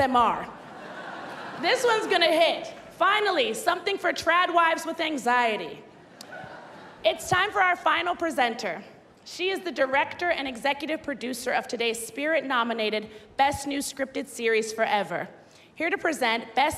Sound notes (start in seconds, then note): 6.0 laughter